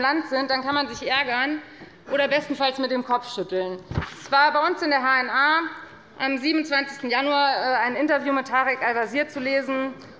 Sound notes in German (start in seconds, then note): none